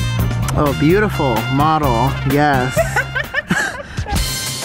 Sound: laughter

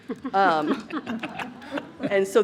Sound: trustees laughs

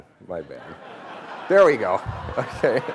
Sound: laughing

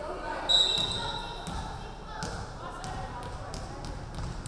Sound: referee whistling

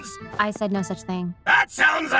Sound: footstep taps

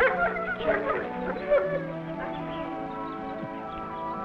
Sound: Rebel barks

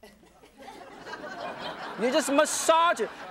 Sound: audience laughing

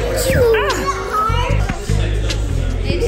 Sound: sneezing

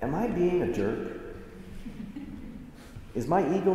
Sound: assembly chuckles

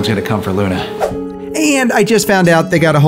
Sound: screen swooshes

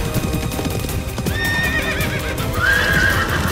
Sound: horse neighing

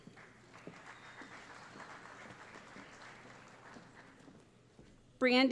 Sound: applause

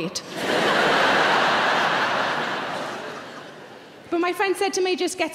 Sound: audience laughing

